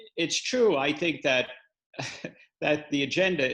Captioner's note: laughs